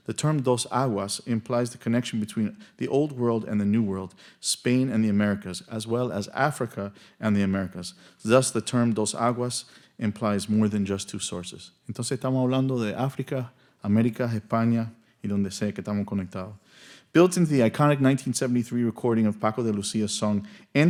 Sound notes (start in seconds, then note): 12.0 speaking in Spanish